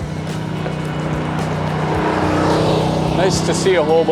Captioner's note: ATV passing